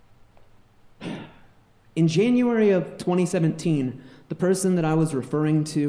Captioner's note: sighs